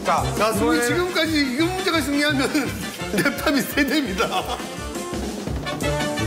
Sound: laugh

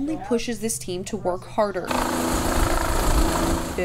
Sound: loud rumbling

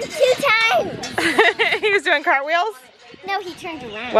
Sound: laughs

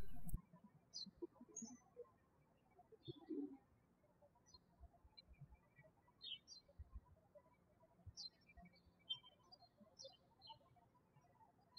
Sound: birds chirping

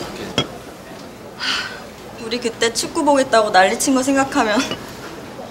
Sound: sigh

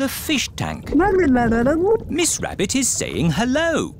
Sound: gurgling

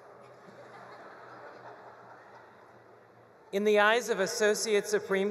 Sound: attendees laughing

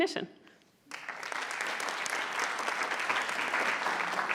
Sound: audience applauding

